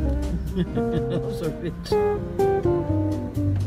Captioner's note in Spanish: risos